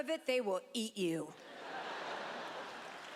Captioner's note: laughter